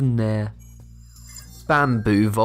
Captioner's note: futuristic ringing